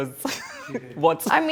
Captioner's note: chuckles